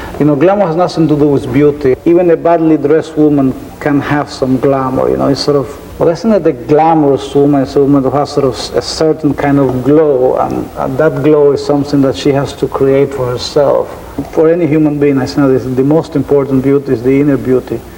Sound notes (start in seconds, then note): none